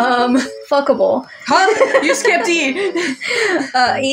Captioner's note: laugh; chuckle